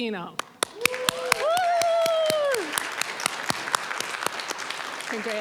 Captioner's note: applause, cheering